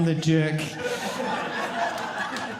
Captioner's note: audience laughing